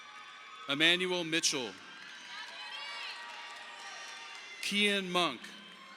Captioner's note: audience applauding